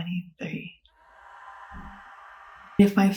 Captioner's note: a far away echoing low scream sfx